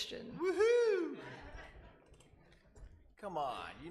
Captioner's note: laughing